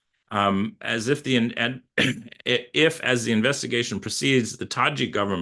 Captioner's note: coughs